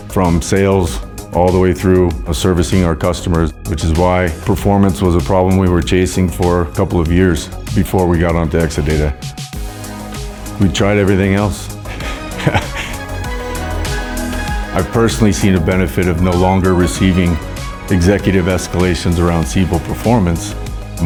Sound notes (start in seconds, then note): 11.8 laughs